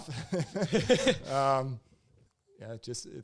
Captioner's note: both laugh